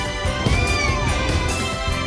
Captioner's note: Caprice meows